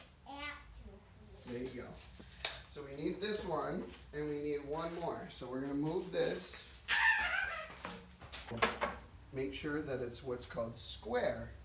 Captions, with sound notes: so we need this one, and we need one more. were going to move this. L - [Play screaming] Make sure that it's square